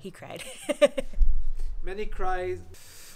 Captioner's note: laughs